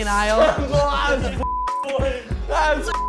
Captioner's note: laughing; beep